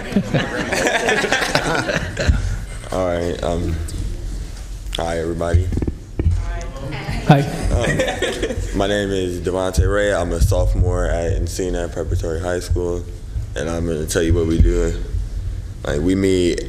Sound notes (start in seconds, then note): 7.4 laughter